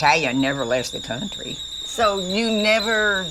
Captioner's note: kettle whistling